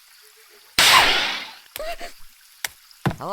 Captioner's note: gasps